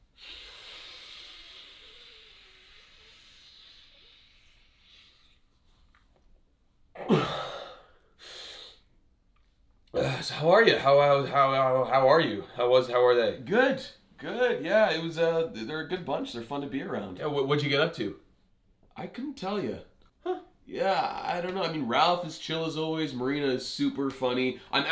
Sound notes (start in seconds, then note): 0.0 Ethan inhales for an uncomfortable amount of time; 7.0 Ethan exhales, sniffs